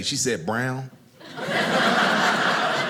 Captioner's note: audience laughing